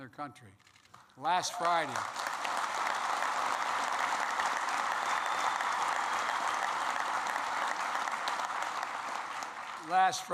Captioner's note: applause